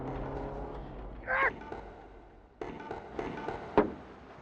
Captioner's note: yells